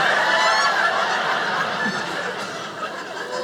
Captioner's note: audience laughing